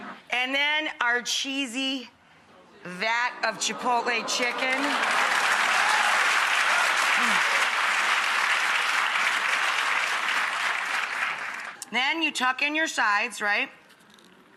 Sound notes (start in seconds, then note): 4.3 audience applauding